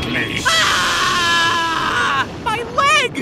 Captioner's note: Yugi screams in pain